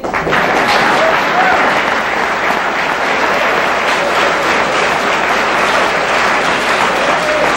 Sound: audience applause

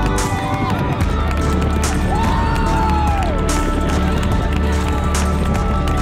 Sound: clapping, cheering

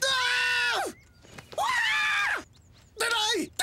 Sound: <i>both screaming</i>

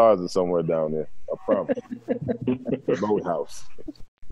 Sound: laughter

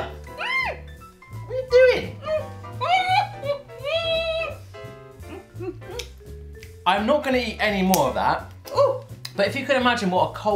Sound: mum screams

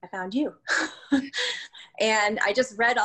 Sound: laugh

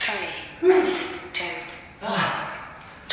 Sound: breath out

